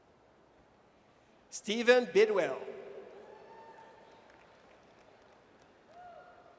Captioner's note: audience cheers